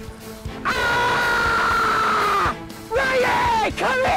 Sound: yells

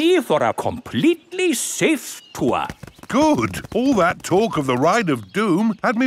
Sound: none

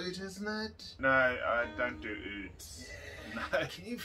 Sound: chuckles

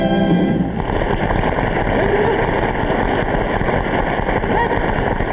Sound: audience applauding

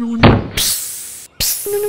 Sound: thud; hiss

